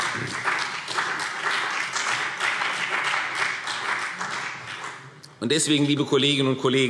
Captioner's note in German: Beifall